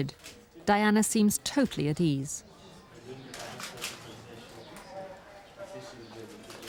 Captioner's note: people chattering